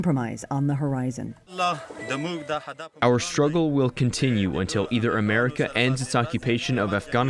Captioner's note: through translator